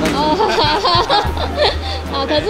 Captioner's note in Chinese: 尬笑